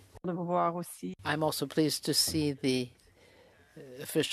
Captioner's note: speaking French